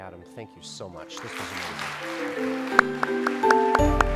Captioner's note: applause